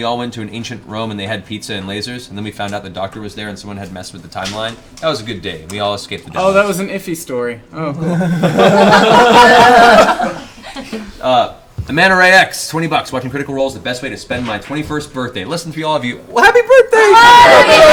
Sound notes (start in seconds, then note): 5.5 all laugh